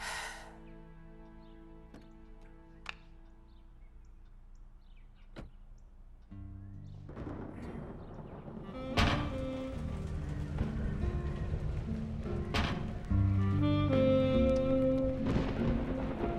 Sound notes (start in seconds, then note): 0.0 Jill sighs; 6.6 somber jazz music; 7.5 thunder rumbles; 9.0 door banging